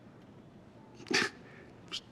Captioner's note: chuckles